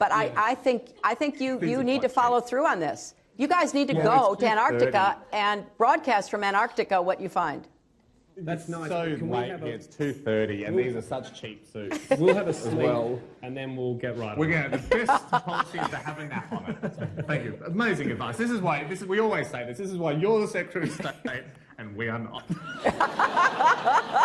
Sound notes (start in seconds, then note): 11.9 laughter; 14.5 laughter; 24.0 laughter